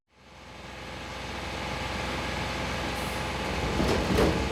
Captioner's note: machines whirring